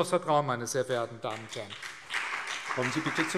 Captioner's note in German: Beifall CDU und BÜNDNIS 90/DIE GRÜNEN